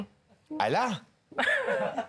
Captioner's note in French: Rires